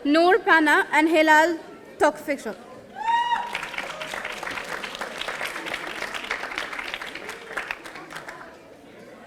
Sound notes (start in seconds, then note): 3.0 audience cheering; 3.1 audience applauding